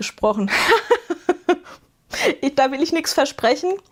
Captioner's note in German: gelächter